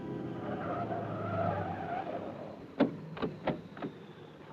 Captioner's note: tires squealing